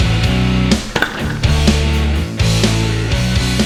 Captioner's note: spinning shock; upbeat music